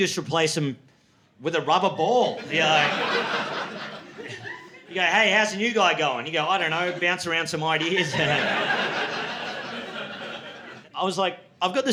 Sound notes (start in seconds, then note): 2.2 laughter; 8.6 laughter